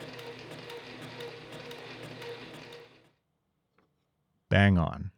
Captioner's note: machine whirring continues